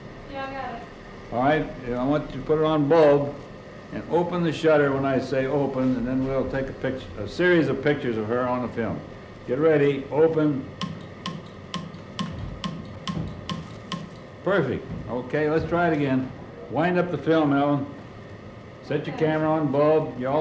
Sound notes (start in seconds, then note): 10.6 clicks